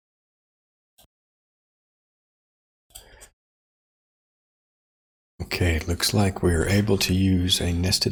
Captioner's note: silence